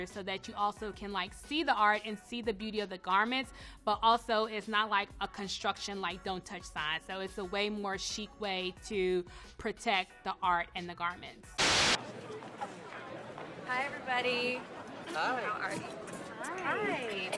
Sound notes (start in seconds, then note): 11.6 TV static hisses; 11.9 muffled chatter